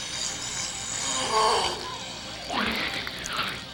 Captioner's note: Jacob grunting